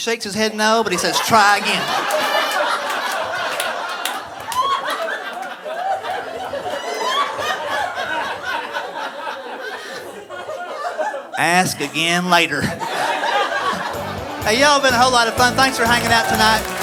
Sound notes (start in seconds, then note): 3.4 audience laughing